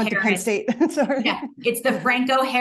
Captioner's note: chuckles